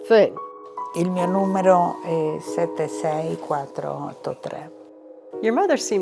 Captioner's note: speaking in foreign language